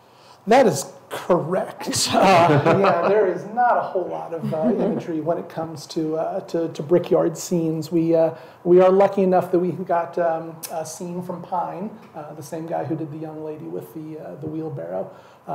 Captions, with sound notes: - That is correct. (all chuckle) There is not a whole lot of imagery when it comes to brickyard scenes. We are lucky enough that we got a scene from Pine, the same guy who did the young lady with the wheelbarrow.